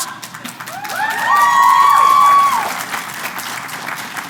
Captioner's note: applause